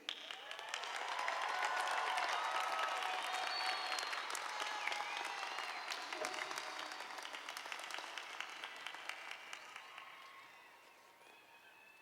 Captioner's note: applause